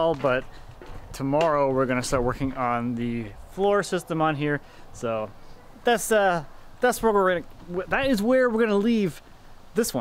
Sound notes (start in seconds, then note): none